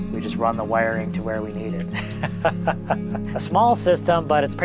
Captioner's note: laughs